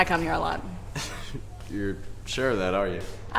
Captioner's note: laughs